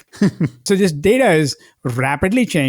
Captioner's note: host laughing